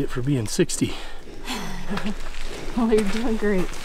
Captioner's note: laughs